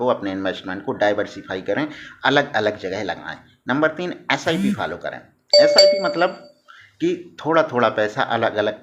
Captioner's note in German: sip